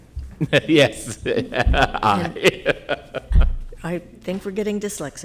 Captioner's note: laughing